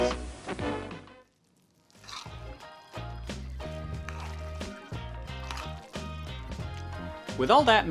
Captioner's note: stirring noises